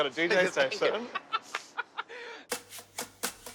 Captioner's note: laughing